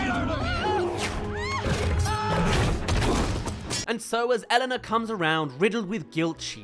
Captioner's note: screams* *Hit